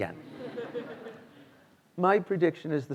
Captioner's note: students laughing